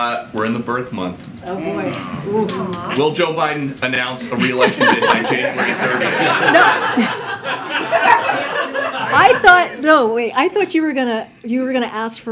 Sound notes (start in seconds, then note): 6.7 laughter